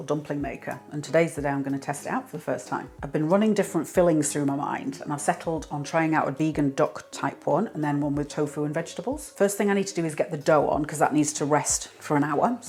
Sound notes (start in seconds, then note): none